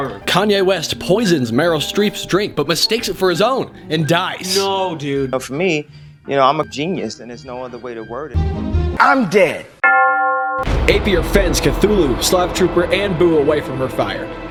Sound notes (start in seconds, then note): 9.8 church bell rings